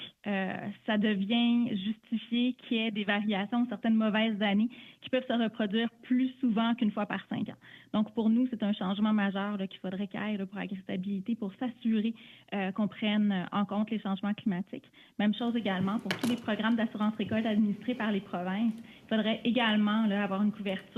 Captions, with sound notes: ADEQUATE FOR INTERPRETATION. [ Speaking French ]